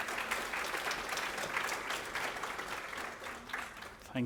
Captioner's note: applause